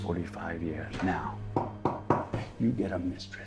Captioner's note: knuckles tapping